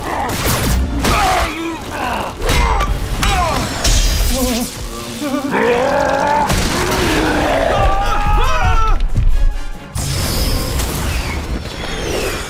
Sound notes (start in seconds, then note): 8.3 guards scream